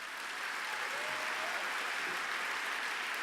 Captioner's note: applause